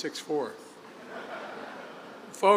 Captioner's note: laughter